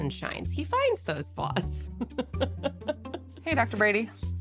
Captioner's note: chuckles